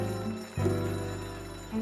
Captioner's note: bell rings